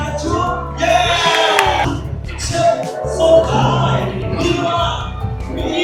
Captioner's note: applause